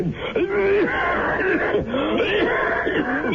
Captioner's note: coughing